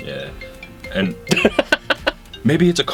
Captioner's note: laughter; cell phone chimes